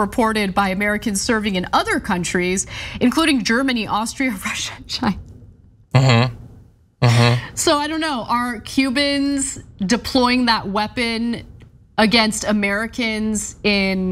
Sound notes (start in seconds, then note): 7.0 laugh